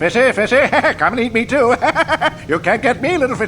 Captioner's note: crazed chuckle